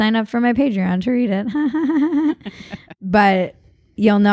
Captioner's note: laughs